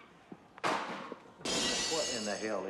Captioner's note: thud and glass shattering